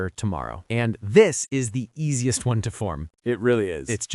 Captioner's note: excited